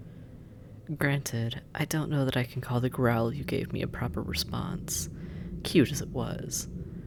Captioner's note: taunting